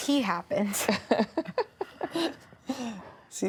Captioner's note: laughter